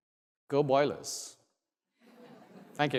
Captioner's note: laugh